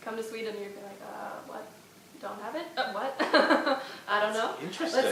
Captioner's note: laughs